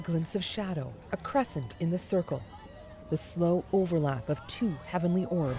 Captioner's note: cheers and Applause